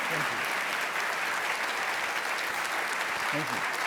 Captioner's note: audience applauding